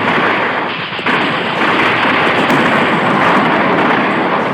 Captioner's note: bombs exploding; guns firing